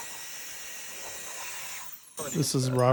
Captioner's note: drill whirring